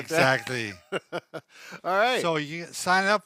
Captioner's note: laughs